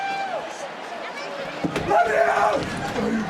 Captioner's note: crowd cheers